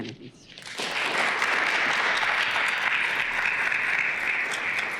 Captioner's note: applause